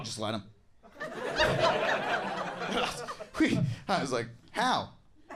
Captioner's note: audience laughs